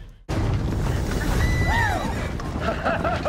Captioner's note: horse neighs